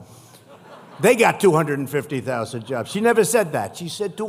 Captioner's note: laughter